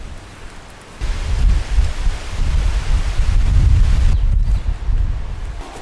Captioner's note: wind noises